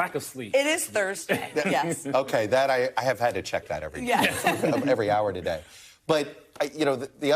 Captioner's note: laughter